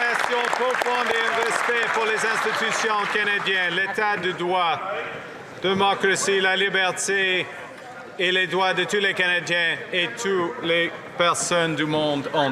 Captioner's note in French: applaudissements